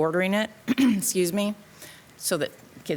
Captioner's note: clearing throat